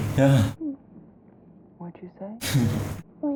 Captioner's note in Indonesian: Bisikan